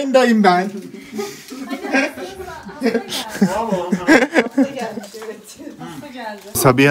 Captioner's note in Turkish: Gülüşmeler